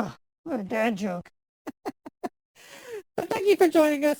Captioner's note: chuckles